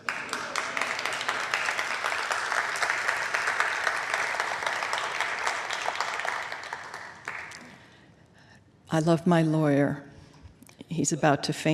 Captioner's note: applause